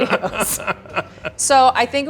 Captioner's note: laughs